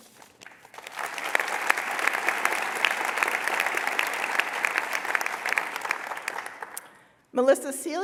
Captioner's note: applause